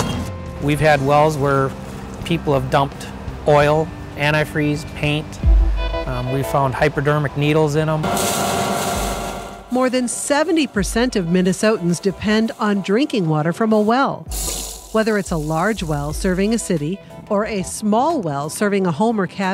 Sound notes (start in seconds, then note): 7.9 water splashing